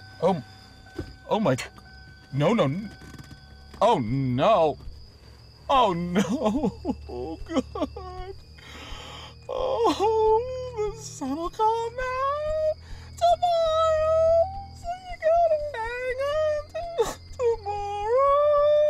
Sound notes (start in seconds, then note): 10.3 whimpering